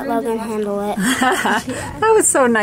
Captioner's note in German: kichert